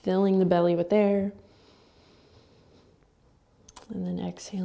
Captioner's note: inhaling